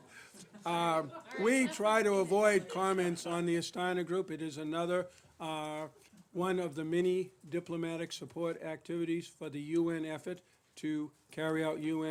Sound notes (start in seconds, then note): 0.2 laughter